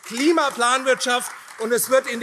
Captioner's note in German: Beifall AfD